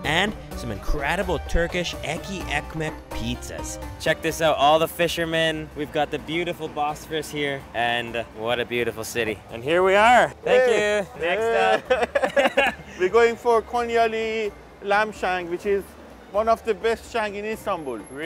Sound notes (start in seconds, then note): 6.8 foreign language; 11.4 laughs